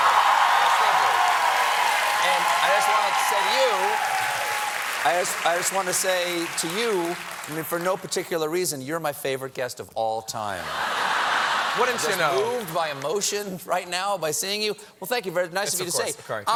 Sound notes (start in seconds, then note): 0.0 cheers and applause; 10.7 laughter